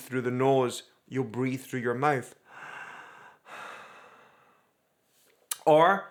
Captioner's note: inhales deeply